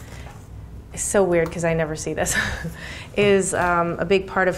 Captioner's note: chuckles